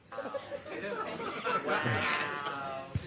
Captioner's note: audience murmurs